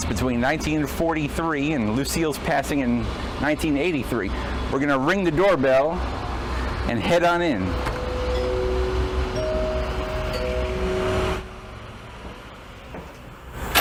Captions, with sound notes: between 1943 and Lucille's passing in 1983. We're gonna ring the doorbell and head on in. (door opens) So through this door,